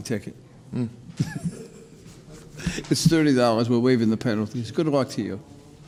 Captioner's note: laughs